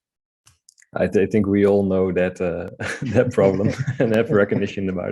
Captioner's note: chuckling